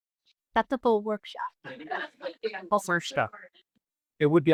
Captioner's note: laughing